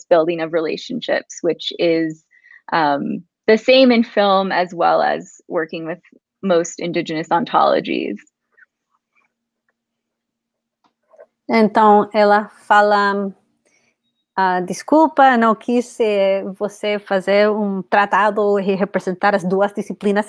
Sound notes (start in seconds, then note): 12.8 speaks portuguese